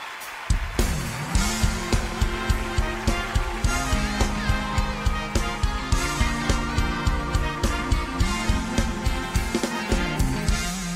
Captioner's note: cheers and applause